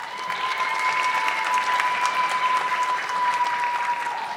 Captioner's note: audience clapping